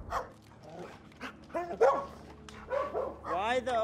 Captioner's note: dog barking